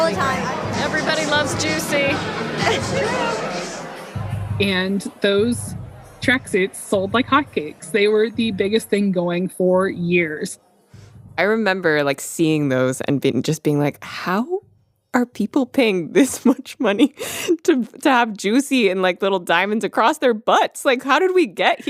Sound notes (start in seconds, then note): 17.1 laughs